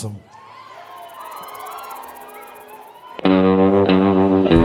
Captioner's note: crowd cheers; upbeat music